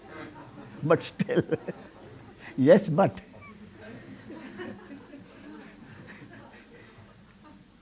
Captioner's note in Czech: smích